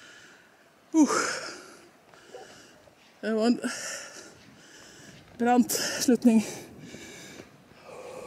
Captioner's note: breaths heavily